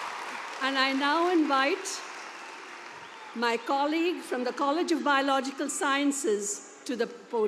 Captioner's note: cheers and applause